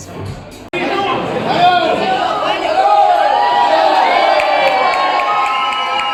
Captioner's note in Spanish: gritos y aplausos